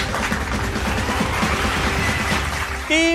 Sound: clapping

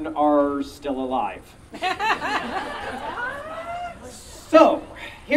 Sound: audience Laughing

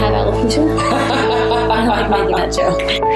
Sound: laughing

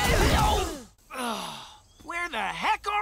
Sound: screaming; groaning

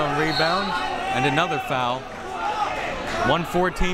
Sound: whistle tweeting

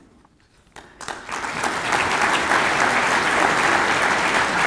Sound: applause

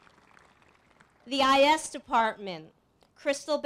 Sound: applause

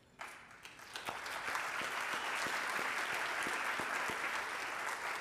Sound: audience applauding

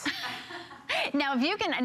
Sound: laughter

